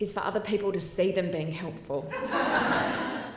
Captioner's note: laughter